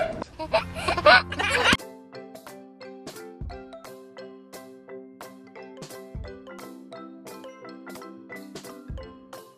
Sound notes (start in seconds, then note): 0.3 baby giggling; 2.8 whimsical music